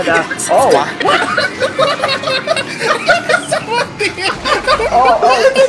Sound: laughing

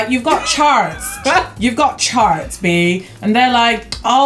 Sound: laughs

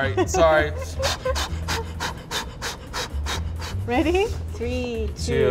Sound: blows air

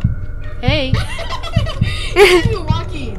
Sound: laughs

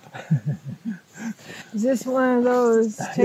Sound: chuckle

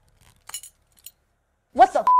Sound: buckle clinks

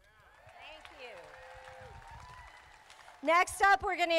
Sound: crowd applauding

